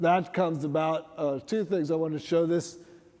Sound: none

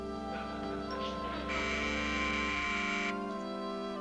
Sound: buzzing

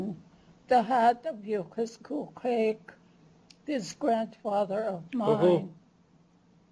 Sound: non-english speech

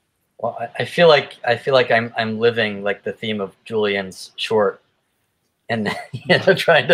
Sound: laughs

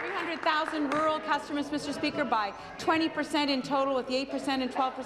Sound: applause

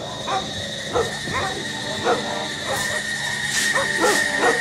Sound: wailing

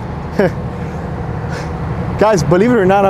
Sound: laughs

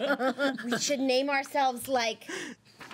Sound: girls laughing

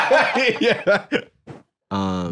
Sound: laughing

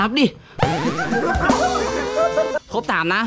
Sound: laughs

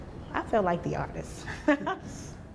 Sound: laughter

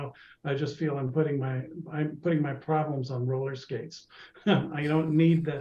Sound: chuckles

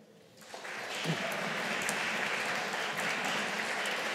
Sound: audience applauding

